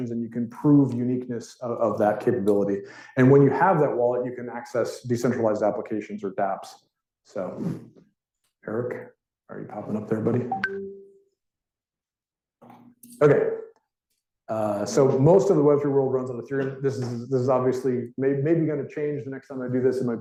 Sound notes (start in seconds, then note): 10.3 technology popping